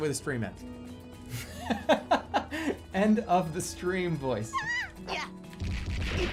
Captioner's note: bursts out laughing